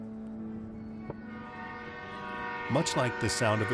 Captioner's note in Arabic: صوت بوق القطار